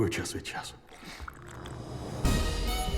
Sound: slurping

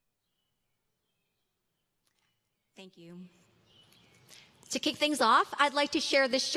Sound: silence

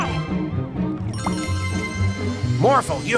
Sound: transformation sound

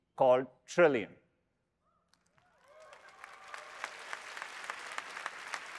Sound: applause

